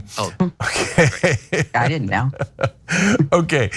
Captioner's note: laugh